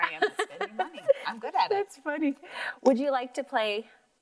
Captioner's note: laughs